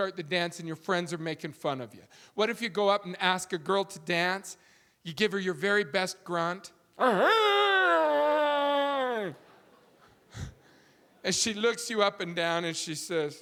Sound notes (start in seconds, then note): 7.0 grunting loudly; 9.2 audience laughing